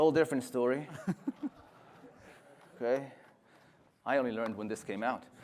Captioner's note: laughter